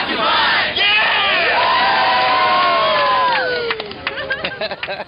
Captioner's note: cheering and applause